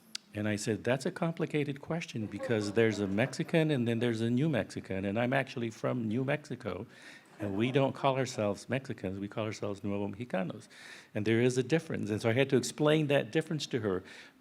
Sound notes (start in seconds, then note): 9.9 speaking in foreign language